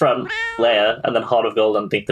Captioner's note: laughs